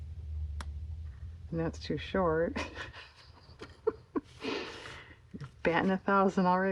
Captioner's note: laughs